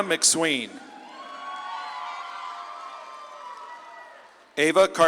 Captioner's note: audience claps and cheers